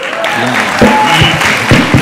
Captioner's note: audience applauding